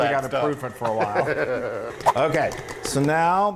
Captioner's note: laugh